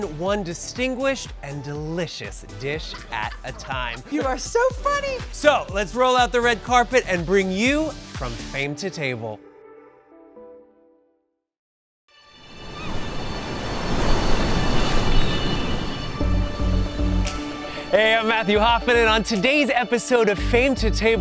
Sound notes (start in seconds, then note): 9.4 gentle music; 12.4 waves crashing; 12.6 birds squawking; 16.7 gentle music